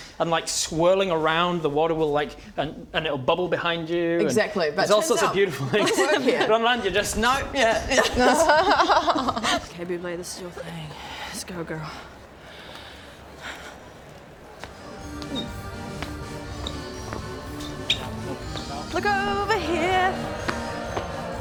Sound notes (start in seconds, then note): 14.7 circusy music; 16.5 shuffling squeaky shoes